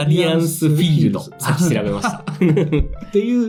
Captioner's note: laughs